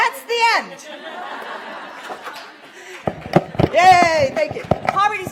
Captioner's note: laughter & applause